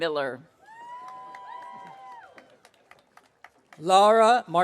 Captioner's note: audience cheering